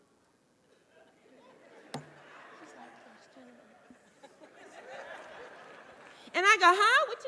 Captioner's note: audience laughing